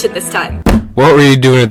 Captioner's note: slams table